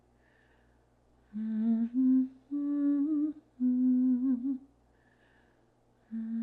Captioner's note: instructor continues humming